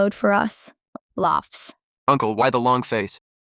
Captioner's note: laughs